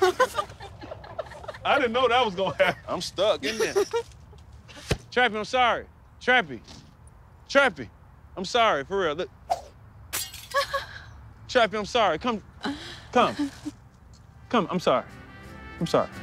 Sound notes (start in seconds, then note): 0.0 laughter; 10.2 whoosh, glass breaks; 13.2 laughs